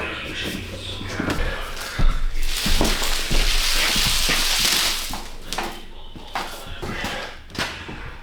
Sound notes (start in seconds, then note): 2.3 water Splashing